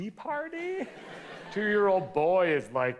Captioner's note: audience laughs